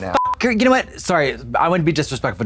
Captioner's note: beep